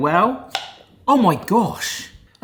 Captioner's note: seal pops